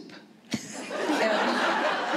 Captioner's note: laughter